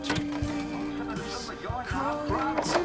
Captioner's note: singing; television chatter; singing